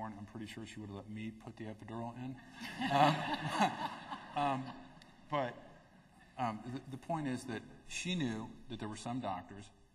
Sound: laughter

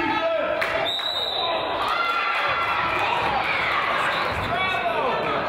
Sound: claps; whistle blows

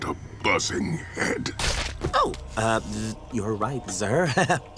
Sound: chuckles

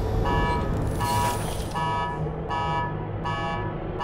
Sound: alarms Blaring

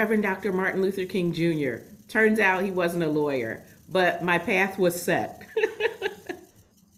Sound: laughs

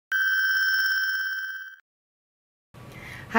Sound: beep

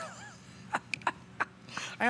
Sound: laughter

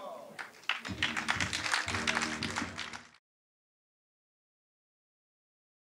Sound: audience applauds

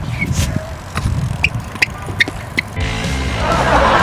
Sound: sneakers squeaking; energetic music; audience laughing

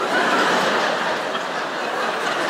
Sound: laughter

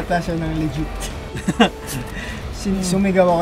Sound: laughing

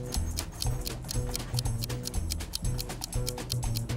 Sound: timer ticking

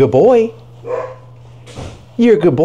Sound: dog barks

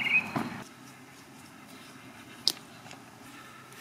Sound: leaves rustle

